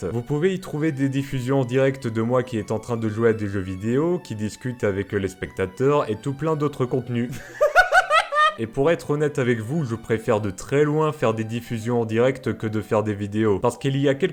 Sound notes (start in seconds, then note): 7.3 laughs